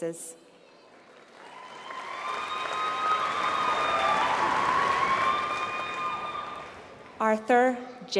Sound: applause

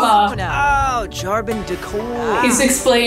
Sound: Ryder mumbles

